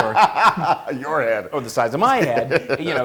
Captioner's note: laugh